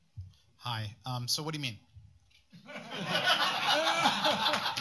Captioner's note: laughter